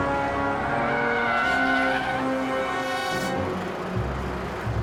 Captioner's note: tires screeching